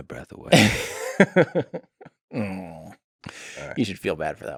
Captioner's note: Tim laughs